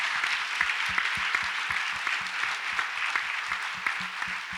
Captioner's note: audience applauds